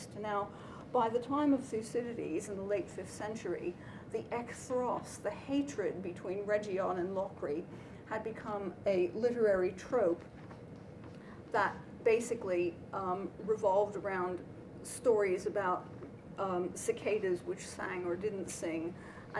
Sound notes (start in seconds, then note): 4.4 non-english